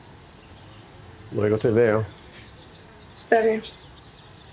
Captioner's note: James speaking in Spanish; woman speaking in Spanish